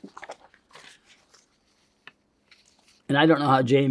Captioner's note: paper crinkling